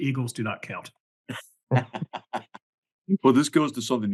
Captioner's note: laugh